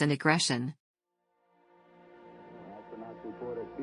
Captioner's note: soundbite of archived recording